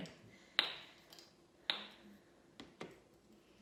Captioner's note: cubes popping